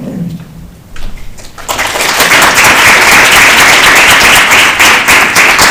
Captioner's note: applause